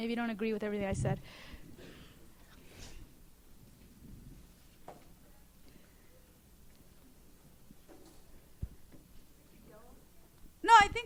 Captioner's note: silence